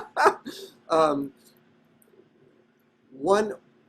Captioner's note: laughing